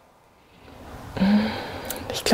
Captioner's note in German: Seufzen